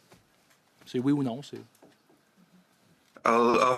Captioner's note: speaking French